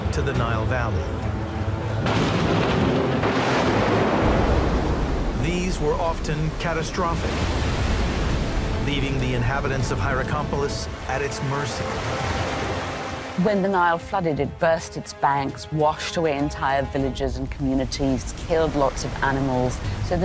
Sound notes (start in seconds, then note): 1.4 gentle suspenseful music; 2.0 thunder roars; 12.0 lively suspenseful music; 12.0 water babbles